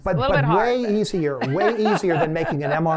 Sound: laughter

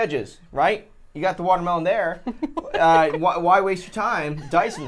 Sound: laughs

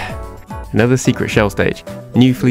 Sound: sigh

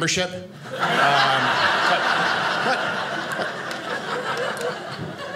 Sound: audience laughing

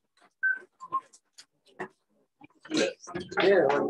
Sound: background chatter

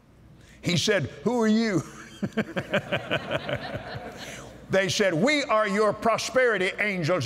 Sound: laughter

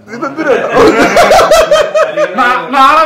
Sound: laughing

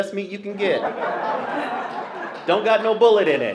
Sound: laughter

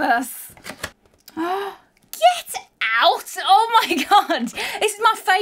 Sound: gasps

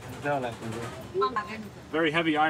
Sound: speaking in foreign language

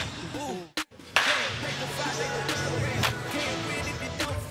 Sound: upbeat music continues; bats thwacking

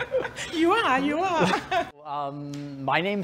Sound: rires

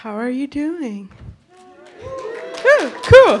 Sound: applause

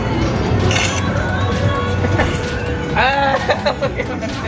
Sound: camera shutter

